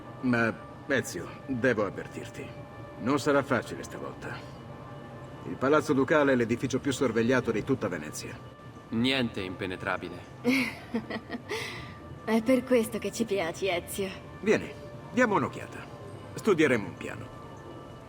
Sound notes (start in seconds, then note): 10.4 laughs